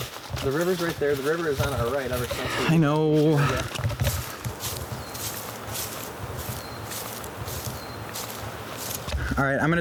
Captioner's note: exasperated